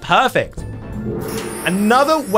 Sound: gong clashing

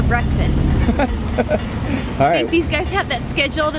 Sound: laughs

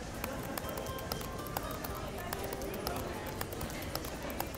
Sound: typing clicks

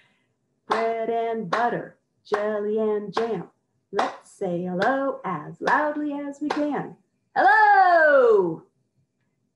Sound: clapping in rhythm; shouting

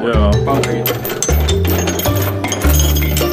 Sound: rattling

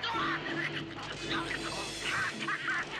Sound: yelling; roaring

